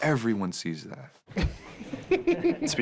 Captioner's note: both chuckle